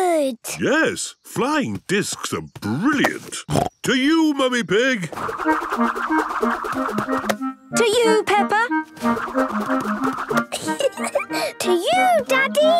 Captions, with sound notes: - Yes, flying discs are brilliant. (snorting) To you, Mummy Pig! - To you, Peppa! (giggling) - To you, Daddy!